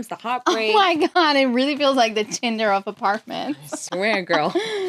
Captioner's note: laughs